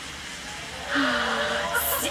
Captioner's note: gasps